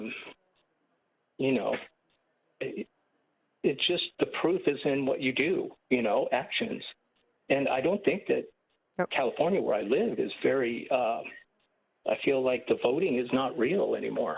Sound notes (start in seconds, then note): none